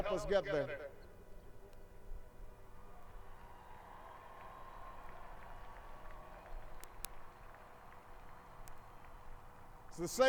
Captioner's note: applause